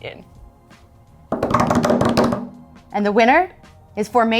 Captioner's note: hands drumming